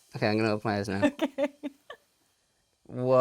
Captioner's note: laughs